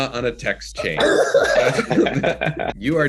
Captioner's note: group laughs